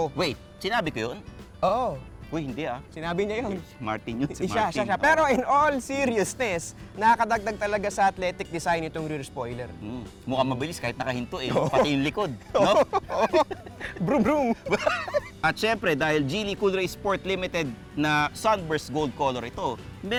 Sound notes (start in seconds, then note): 13.2 both laughing; 14.7 both continued laughing